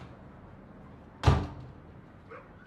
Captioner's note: door slams